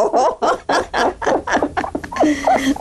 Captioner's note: laughter